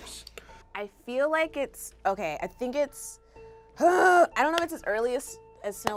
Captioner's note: groans